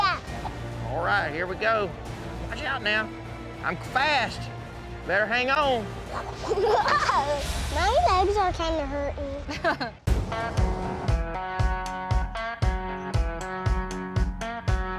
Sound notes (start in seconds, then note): 6.2 giggles